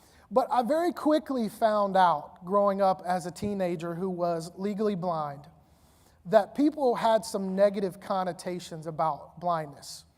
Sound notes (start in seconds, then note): none